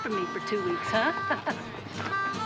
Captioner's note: laughs